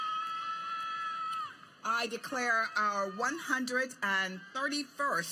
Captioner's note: applause